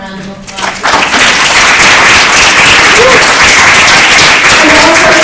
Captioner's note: applause